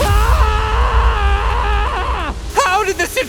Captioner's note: Shin screaming